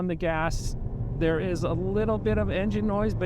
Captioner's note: vehicle engine revving